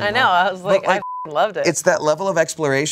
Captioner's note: beep